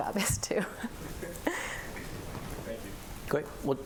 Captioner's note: laughter